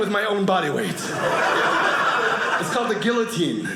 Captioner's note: audience laughing